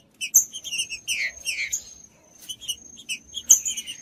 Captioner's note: trinca ferro cantando